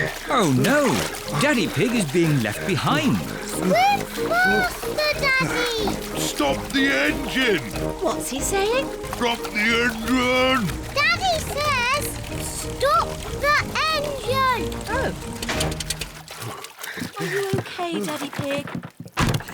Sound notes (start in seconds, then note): 0.0 panting; 9.2 splutters